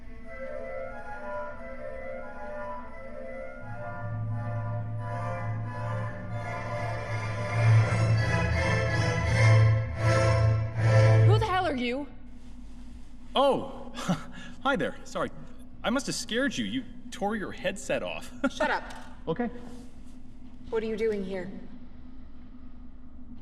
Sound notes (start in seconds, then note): 0.1 symphony rising; 8.1 symphony finale; 13.9 chuckle; 17.6 laugh